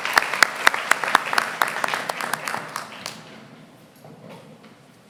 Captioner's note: applause